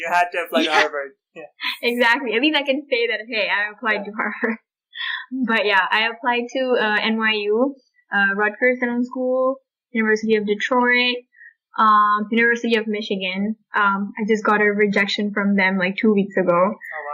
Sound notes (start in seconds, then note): 2.0 laughter